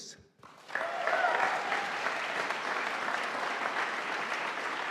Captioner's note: audience applauding